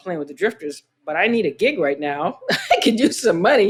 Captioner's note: laughter